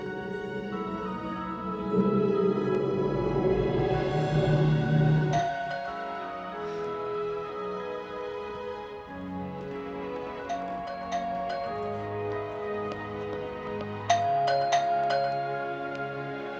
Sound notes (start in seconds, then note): 2.9 eerie humming; 5.3 doorbell ringing